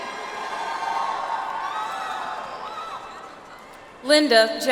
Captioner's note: audience applauds